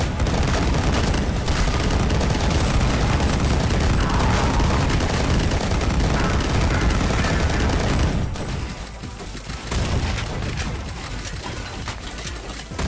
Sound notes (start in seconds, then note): 0.1 gun firing; 3.8 monsters grunting; 9.5 shotgun firing